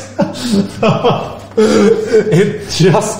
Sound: laughs

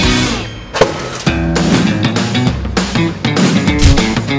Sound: popping sound

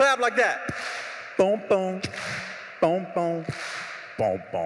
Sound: beatboxing

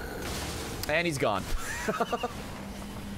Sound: laughs

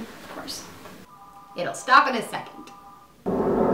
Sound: phone ringing

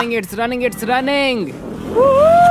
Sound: shouts

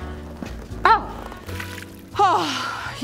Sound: splash!

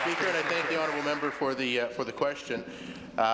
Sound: applause

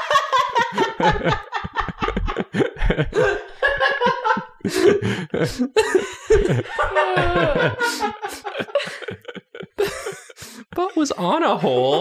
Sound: laughter

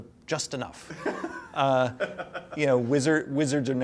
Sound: laughs

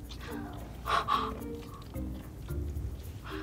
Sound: both gasp

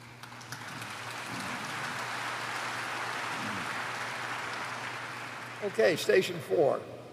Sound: applause

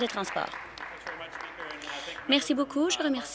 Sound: applause

